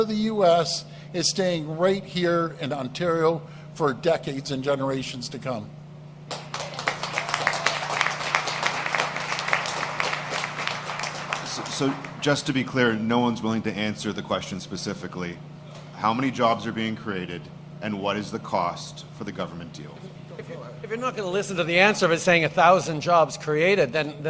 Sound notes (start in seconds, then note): 8.3 applause